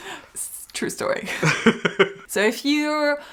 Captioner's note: laughs